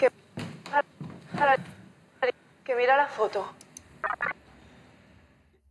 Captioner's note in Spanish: distorsionado